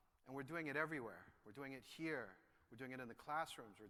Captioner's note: none